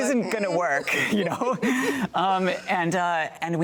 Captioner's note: both laughing